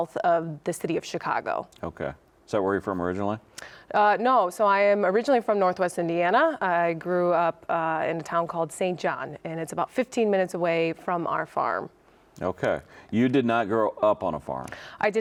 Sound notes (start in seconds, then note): none